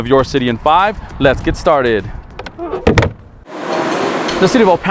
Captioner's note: door closes